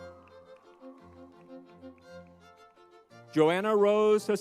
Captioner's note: crowd cheers; lively music